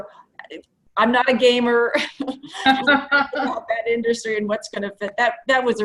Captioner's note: laughs